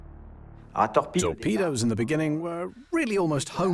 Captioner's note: voiceover